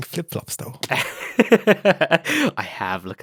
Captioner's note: laughs